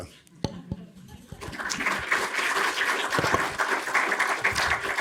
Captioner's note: audience applauding